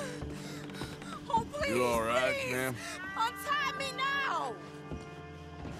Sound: sobbing

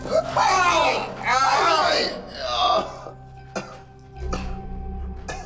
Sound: Tony screaming in pain

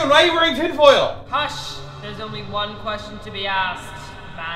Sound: echoing voice

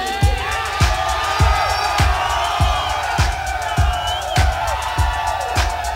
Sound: audience cheering

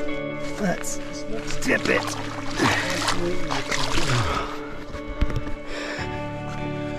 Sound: water splashes

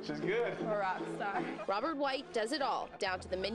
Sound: laughter

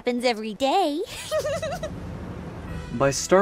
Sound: laughter

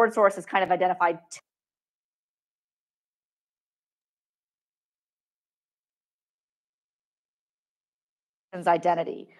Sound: microphone cuts out

